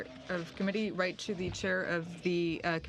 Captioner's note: speaking French